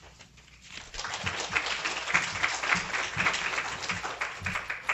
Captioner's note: applause